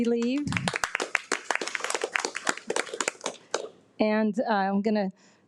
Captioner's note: trustees clapping